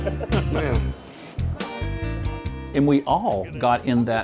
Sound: murmuring and chuckling

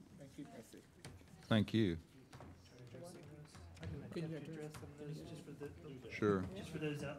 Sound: all chattering

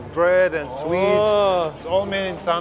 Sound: excited sighing

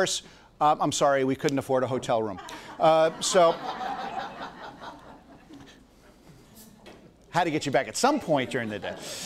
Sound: audience laughs

